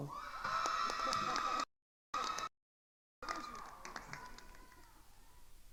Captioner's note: attendees cheering and applauding